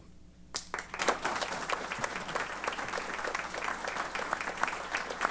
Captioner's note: applause